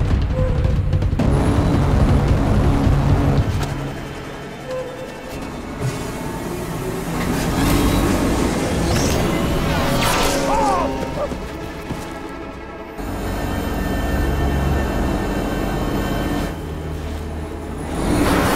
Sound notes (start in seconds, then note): 10.0 laser zipping; 10.8 Vag'duban yelps; 13.8 speeder zooming